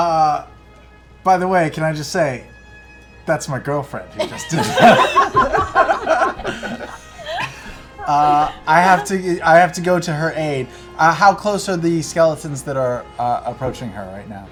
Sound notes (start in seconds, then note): 4.2 laughter